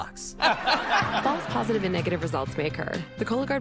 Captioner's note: audience: laugh track